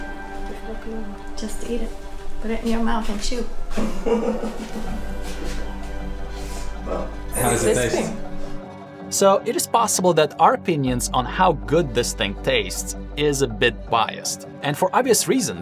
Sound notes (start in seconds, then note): 0.3 speaking Arabic; 3.8 laughter